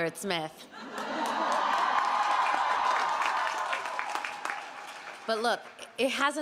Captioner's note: audience cheering and applauding